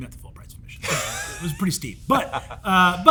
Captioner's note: Hank laughs